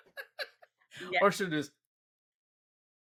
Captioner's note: laughing